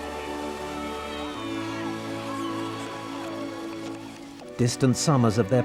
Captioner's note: people cheering; Diana and Harry cheering